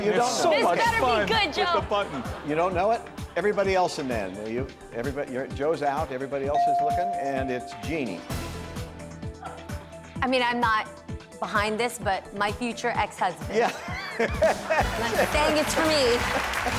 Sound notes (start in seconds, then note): 6.5 bell chimes; 13.7 laughs